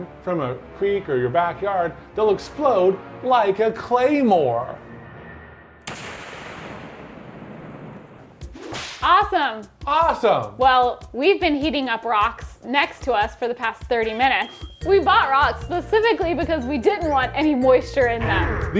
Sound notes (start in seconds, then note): 5.1 claymore exploding; 8.5 whip snapping; 10.4 upbeat music; 14.4 bell dinging